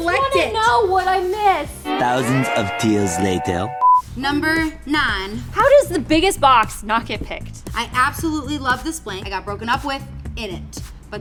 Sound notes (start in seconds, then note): 3.2 beep